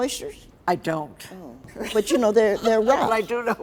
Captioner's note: laughs